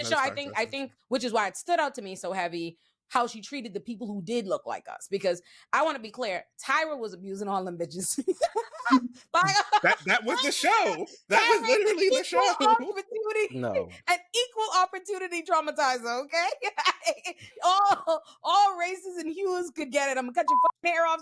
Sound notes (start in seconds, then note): 9.3 laughing